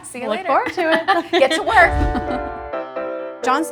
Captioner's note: laughing; bright piano music